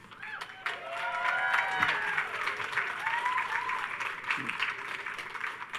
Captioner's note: audience cheers and applauds